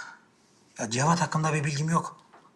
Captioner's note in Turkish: none